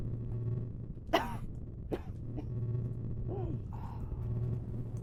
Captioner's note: coughing